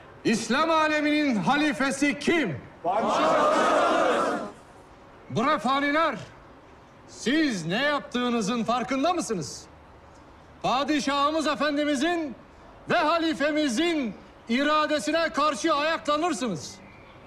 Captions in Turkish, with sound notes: İslam âleminin Halifesi kim? (Hep bir ağızdan) Padişah’ımız. Bre faniler... ...siz ne yaptığınızın farkında mısınız? Padişah’ımız Efendi’mizin... ...ve Halife’mizin iradesine karşı ayaklanırsınız.